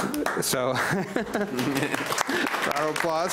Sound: laughs; audience applauds

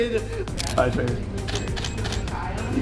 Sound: camera Clicks

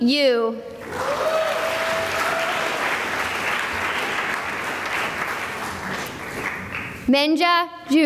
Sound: cheering and applause

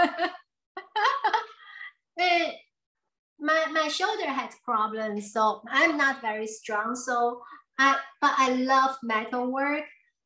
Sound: laughs

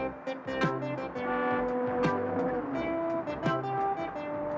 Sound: upbeat music continues; car honking

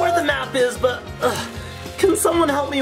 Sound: Barbie Malibu grunting

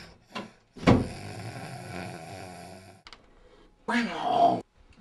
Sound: snoring

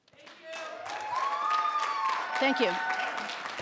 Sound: audience cheering

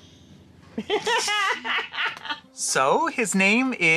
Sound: laughing

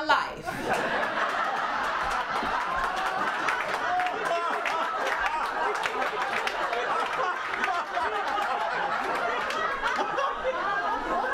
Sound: laughter and cheering

